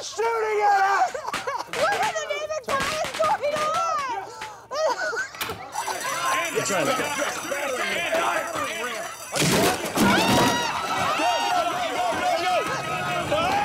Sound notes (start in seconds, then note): 5.7 alarm blaring; 9.9 screaming